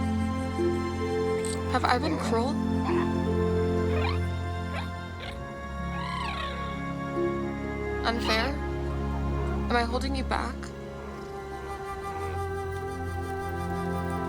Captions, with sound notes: Have I been cruel? [chittering] Unfair? Am I holding you back?